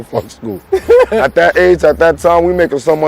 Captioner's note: laughing